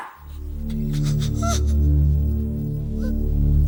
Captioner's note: whimpering